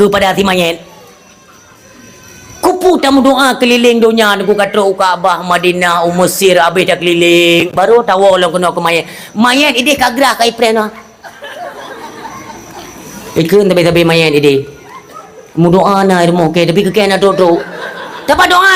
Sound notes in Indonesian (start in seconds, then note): 10.8 tertawa